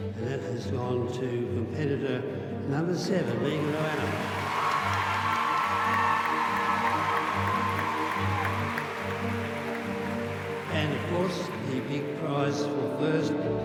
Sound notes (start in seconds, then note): 3.5 audience applauding and whooping